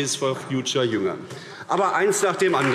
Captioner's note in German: Beifall AfD